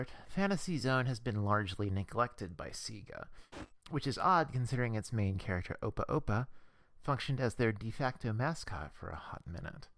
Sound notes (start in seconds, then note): 3.5 static